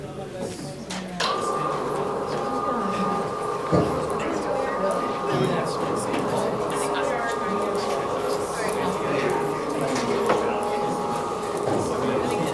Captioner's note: talking amongst students